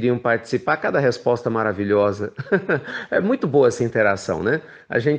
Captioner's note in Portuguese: risos